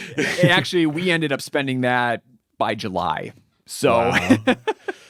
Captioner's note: chuckles; laughs